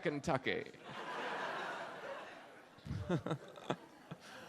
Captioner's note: audience laughs